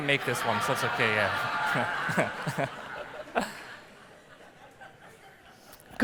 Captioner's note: laughs